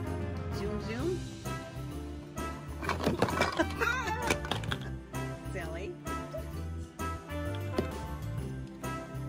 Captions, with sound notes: Zoom, zoom. (toys clatter) (woman laughs) Silly. (upbeat music)